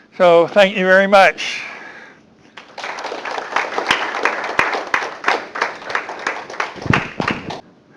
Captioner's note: applause